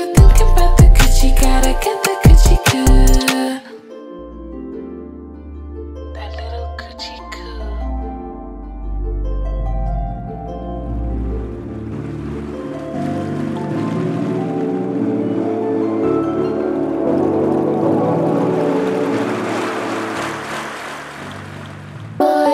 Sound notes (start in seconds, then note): 8.4 tranquil music; 12.5 water babbling